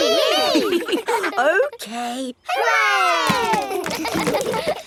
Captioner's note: chuckles; kids laughing